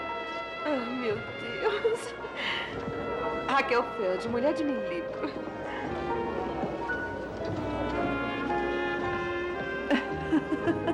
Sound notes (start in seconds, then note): 5.4 chuckles; 9.9 laughs